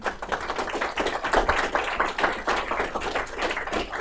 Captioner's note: applause